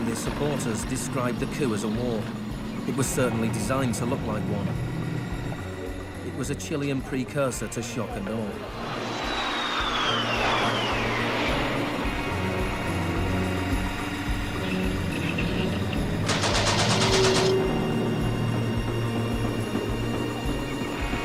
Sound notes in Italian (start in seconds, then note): 11.4 mitragliatrice spara